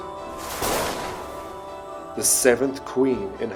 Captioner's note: thunder clapping